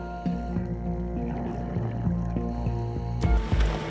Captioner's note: scuba breathing